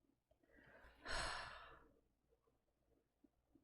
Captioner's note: relieved sigh